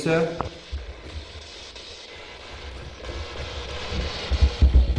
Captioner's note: static buzzing